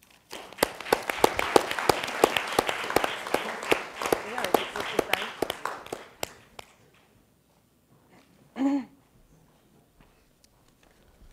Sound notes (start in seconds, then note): 0.0 audience applauding; 4.1 woman speaking faintly